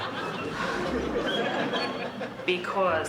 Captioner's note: sighs